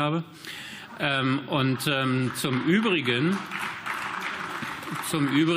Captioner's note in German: Beifall